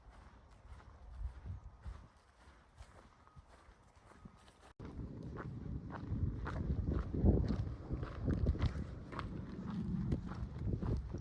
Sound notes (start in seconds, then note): 6.0 footsteps